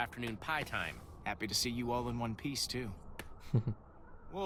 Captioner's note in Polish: awww